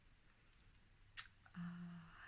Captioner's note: clicks tongue